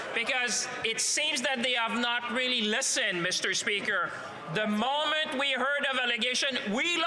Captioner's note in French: voix de l'interprète